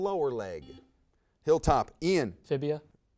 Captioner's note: buzzer buzzes